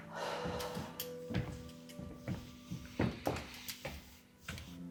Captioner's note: sighs deeply; footsteps plodding